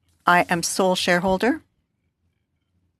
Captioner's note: speaking French